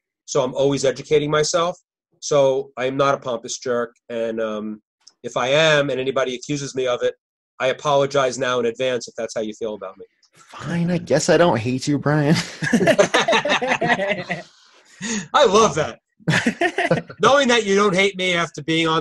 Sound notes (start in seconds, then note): 12.4 laughing